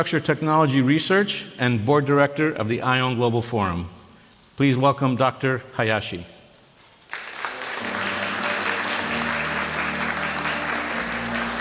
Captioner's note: applause